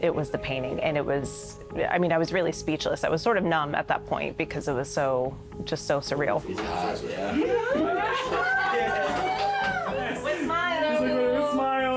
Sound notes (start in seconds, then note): 7.3 group chattering; 7.4 group laughing and cheering